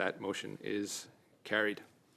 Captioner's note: speaking in French